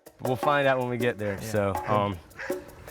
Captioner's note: dog barking